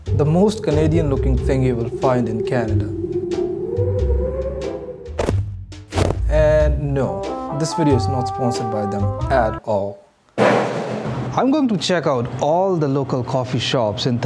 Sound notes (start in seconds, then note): 4.1 feet crunching; 4.1 jazz music